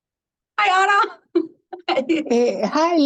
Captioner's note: laughter